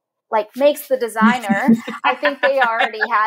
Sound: laughing

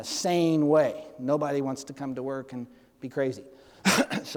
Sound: clears throat

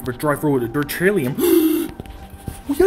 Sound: gasp

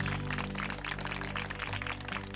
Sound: applause

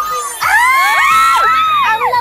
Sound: screams

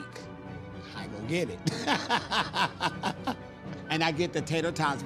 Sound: laughs

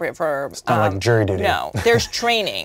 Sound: laughs

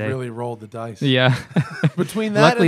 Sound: laughter

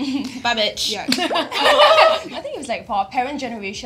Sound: laughing

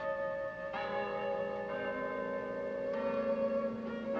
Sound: bells chiming

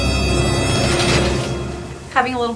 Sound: curtain swooshing

